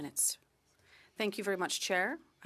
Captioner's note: speaking in French